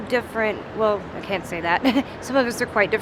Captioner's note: laughing